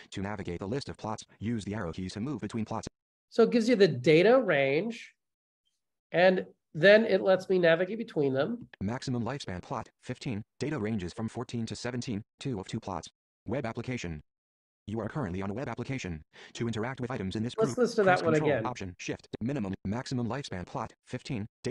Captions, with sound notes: To navigate the list of plots, use the arrow keys to move between plots. - So it gives you the data range and then it lets me navigate between them. - [Voiceover] Maximum lifespan plot, 15. Data ranges from 14 to 17, two of two plots. Web application. You are currently on web application. To interact with items in this group, press Control + Option + Shift minimum maximum lifespan plot 15.